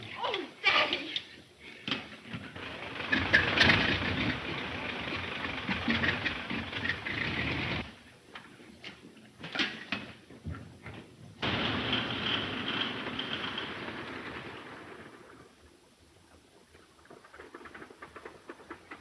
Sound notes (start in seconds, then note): 2.5 plane engine rumbling; 11.4 plane engine rumbling